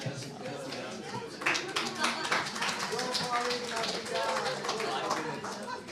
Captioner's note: applause